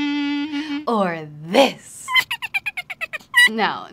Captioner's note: cackle